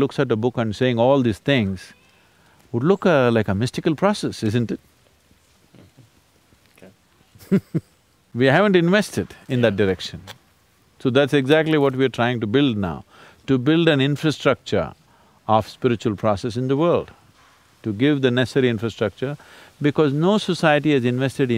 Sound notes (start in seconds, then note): 7.3 Sadhguru laughs